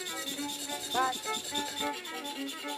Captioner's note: sound of shaved pastels